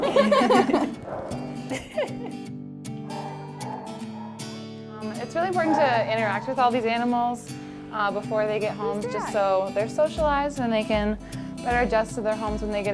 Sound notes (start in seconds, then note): 0.0 both laugh; 1.9 laughs